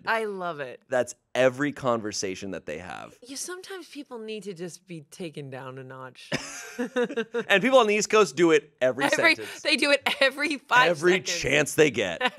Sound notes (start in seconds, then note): 6.3 everyone laughs